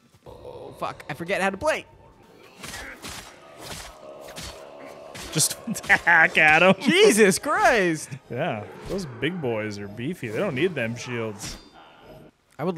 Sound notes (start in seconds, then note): 2.6 blood gushing